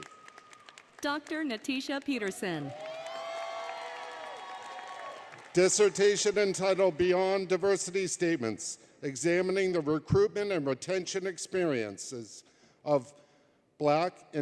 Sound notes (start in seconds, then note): 0.3 applause; 2.8 applause, Cheering